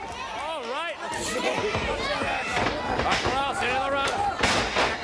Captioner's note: crowd cheering